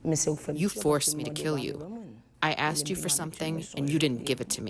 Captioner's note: through translator